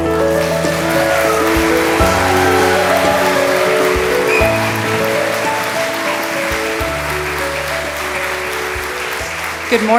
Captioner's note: applause and cheering from the audience